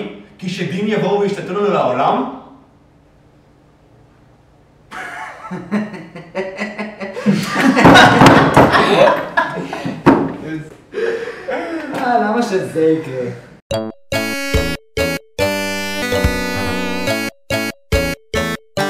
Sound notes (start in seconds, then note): 4.9 laugh; 7.2 even more laugh